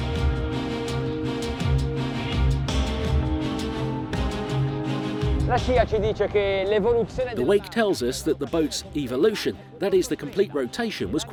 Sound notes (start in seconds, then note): 0.2 dramatic music; 5.6 speaking in foreign language